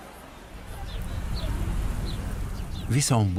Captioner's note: birds chirping